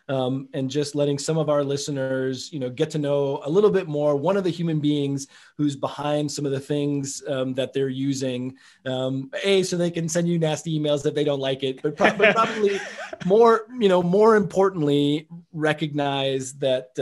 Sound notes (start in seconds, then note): 12.0 laughs